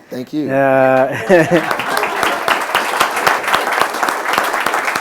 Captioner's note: chuckles; applause